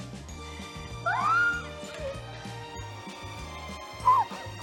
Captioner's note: laughing